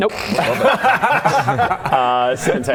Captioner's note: nice-try laughter